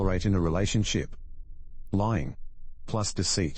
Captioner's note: electrical noise